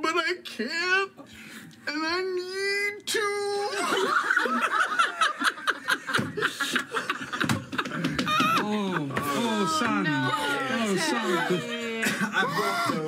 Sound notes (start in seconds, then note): 5.9 all laugh